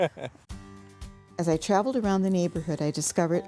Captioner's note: ^laughter^